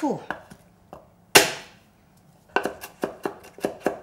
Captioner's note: knife tapping